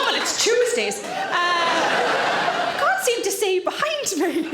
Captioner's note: audience laughing